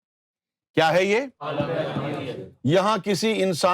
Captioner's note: audience replies